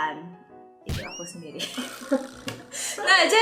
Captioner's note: laughing